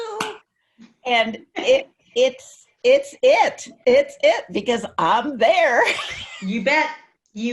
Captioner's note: laughs